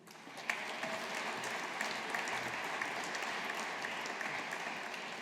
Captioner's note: audience applauding